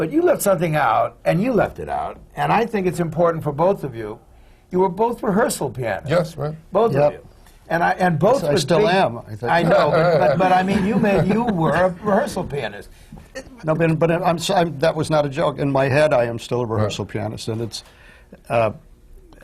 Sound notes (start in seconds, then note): 10.3 laughter